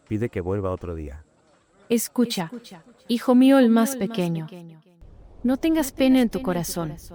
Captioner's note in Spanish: Voz - Virgen María